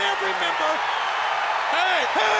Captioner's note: audience cheers